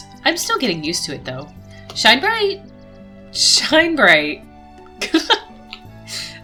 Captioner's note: laughs